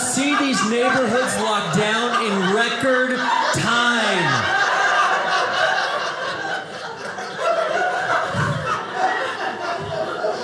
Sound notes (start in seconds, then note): 5.1 audience laughing